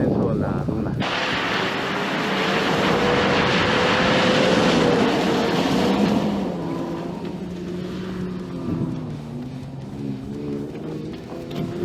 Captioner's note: engine in the distance